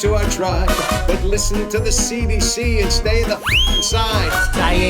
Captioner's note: whistles